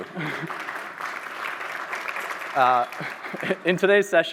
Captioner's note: applause